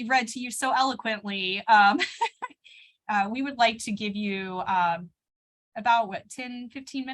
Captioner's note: laughter